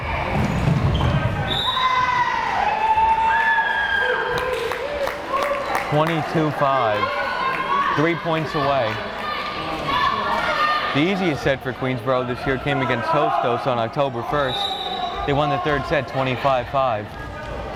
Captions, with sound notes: (whistle blares) 22-5! Three points away. The easiest set for Queensborough this year came against Hostos on October 1st. They won the third set 25-5.